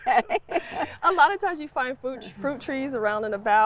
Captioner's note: laughs